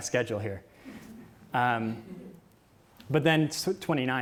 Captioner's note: audience chuckles